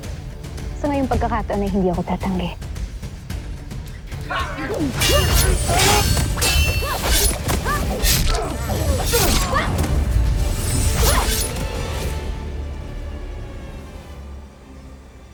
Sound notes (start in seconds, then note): 4.2 growling, grunting, groaning; 4.9 swishing, clanging, thudding; 12.0 music fades